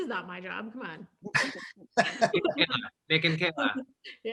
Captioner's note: all laughing